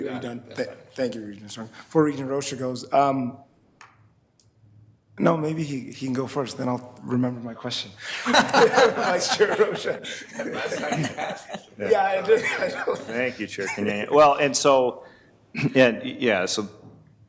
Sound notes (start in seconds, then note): 8.1 everybody laughing; 12.6 laughs